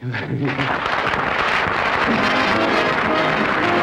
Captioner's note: applause; theme song